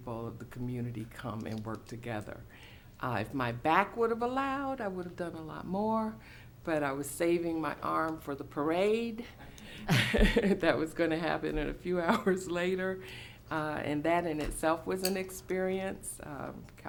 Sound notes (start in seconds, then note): 9.6 chuckling